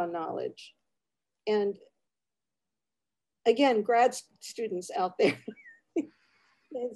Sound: laughs

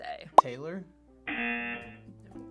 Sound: buzzer

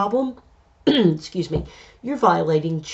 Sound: coughs

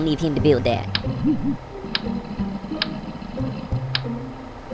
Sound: wobble

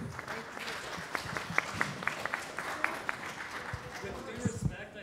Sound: audience applauding

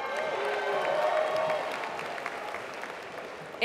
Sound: applause

